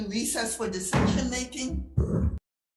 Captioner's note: gavel thuds